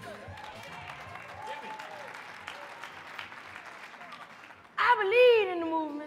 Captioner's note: audience clapping and cheering